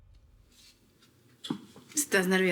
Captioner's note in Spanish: Sonido al abrir